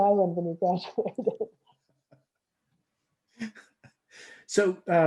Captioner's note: laughs